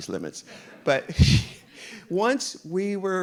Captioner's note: audience laughing